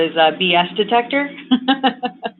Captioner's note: laughter